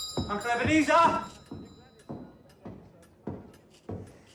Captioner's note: door opens, bell jingles